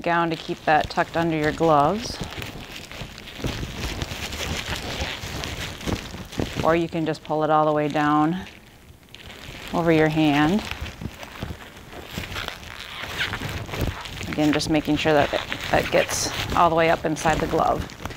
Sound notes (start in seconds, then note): 10.8 glove rustling